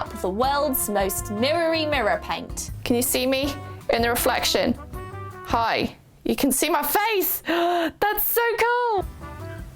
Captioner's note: gasp